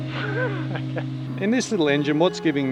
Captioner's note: chuckling